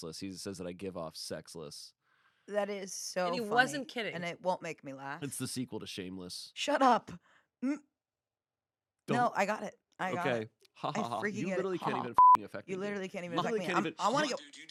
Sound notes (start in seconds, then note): 11.8 beep